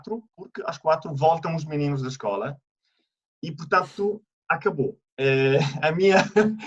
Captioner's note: laughter